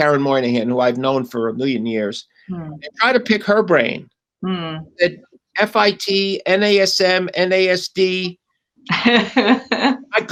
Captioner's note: laughter